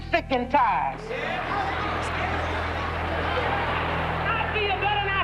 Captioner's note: crowd murmuring agreement